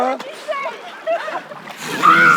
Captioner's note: laughter